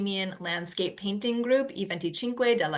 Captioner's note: speaking Italian